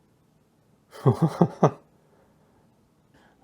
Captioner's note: laughs